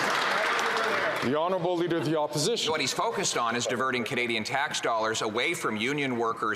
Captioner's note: some Applause